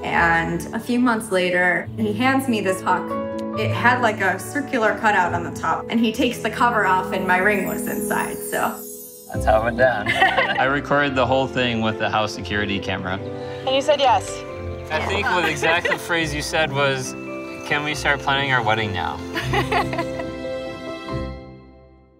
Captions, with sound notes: and a few months later, he hands me this puck. It had like a circular cutout on the top, and he takes the cover off and my ring was inside, so… That’s how it went down. I recorded the whole thing with the house security camera. I think the exact phrase you said was, “Can we start planning our wedding now?” [Laughs]